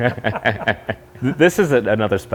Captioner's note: both laughing